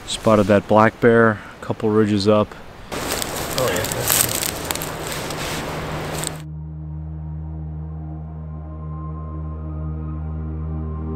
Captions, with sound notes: Spotted that black bear a couple ridges up. (sticks cracking) (peaceful music)